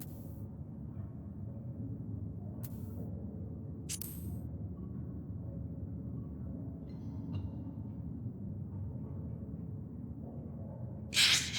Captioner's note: wind howling